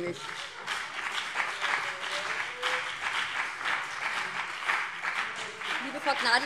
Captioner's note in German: Beifall BÜNDNIS 90/DIE GRÜNEN und CDU - Zurufe SPD